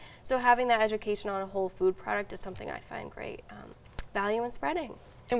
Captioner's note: none